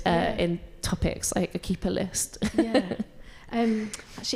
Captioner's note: laughs